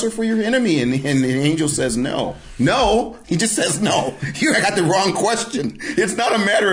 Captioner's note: laughing